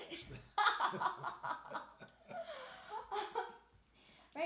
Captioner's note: laughing